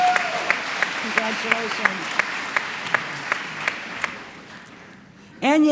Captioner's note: applause